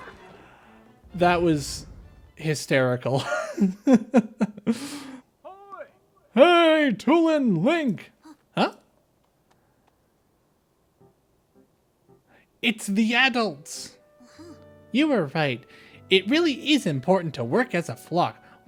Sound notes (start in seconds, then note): 4.2 laugh